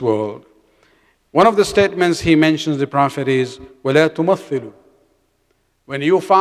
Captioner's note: arabic